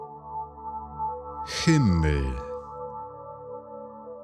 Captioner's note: german